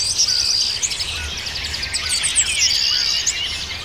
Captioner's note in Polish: śpiew ptaków w tle